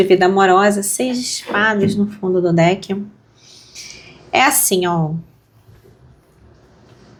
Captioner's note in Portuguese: limpando a garganta